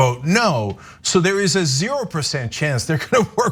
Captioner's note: laugh